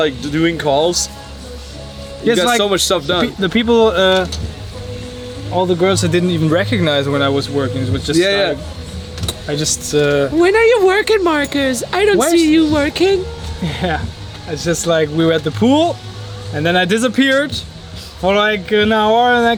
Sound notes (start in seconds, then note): 10.6 imitating girl's voice; 13.5 laughing